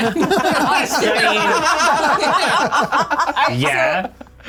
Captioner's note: everyone laughing